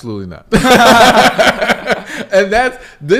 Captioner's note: laughs